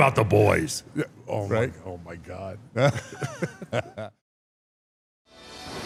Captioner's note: laughs